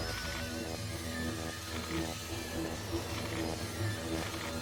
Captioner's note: static blaring continues